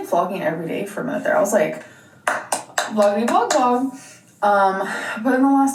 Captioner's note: claps